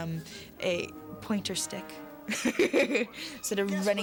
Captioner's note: laughing